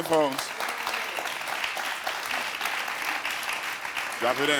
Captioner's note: audience applauds